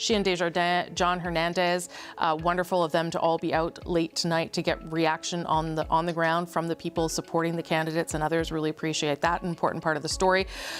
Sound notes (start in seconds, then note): none